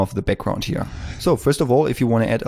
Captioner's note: whoosh